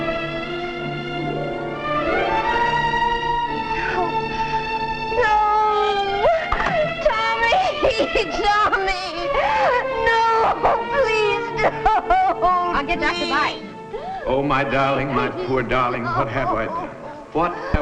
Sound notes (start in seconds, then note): 0.0 dramatic music; 9.7 sobbing